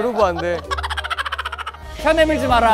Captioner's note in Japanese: ｗｗｗｗ